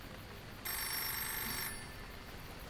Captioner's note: phone Ringing